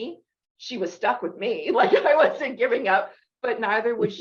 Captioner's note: laughs